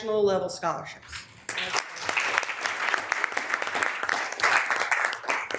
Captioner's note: members applauding